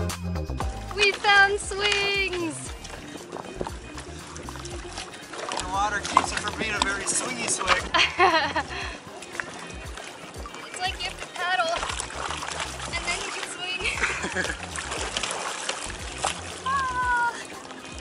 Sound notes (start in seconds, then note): 8.1 laughs; 14.1 laughter